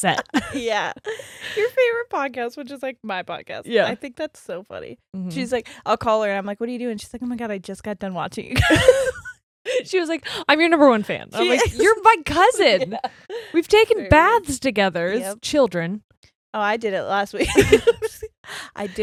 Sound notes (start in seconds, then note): 8.6 both laughing; 12.3 laughs; 17.4 both laughing